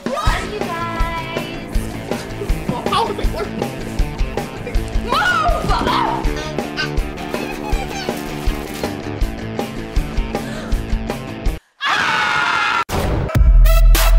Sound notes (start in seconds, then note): 11.7 bugs screaming; 13.3 exit music